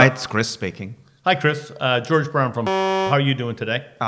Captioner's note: beep